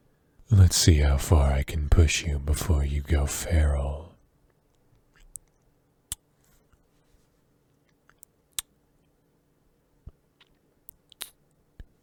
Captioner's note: kissing